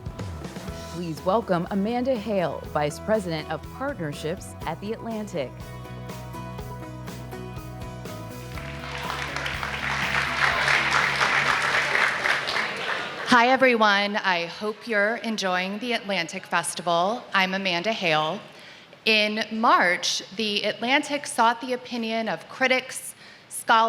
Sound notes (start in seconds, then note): 8.4 applause